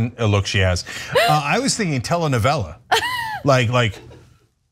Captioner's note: laugh